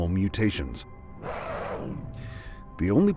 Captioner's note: creature growling